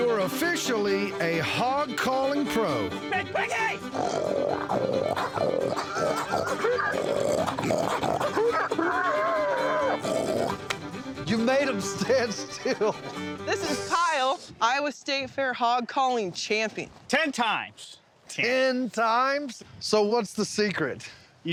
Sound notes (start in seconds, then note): 3.8 imitates a hog grunting; 5.7 laughs; 7.3 continues grunting